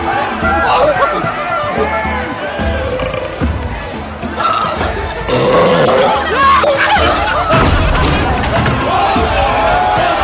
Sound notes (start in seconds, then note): 6.3 people chattering; 8.3 people laughing